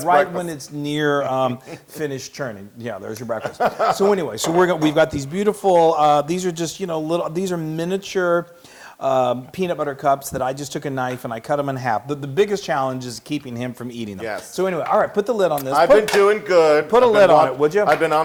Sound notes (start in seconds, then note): 3.3 laugh